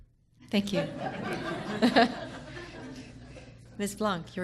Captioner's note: people laughing